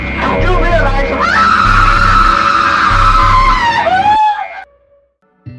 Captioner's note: scream